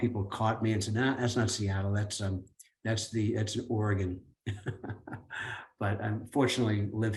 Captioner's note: laughs